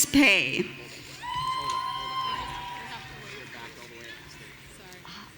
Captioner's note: audience cheering